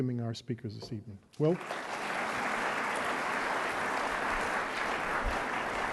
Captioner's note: audience applauding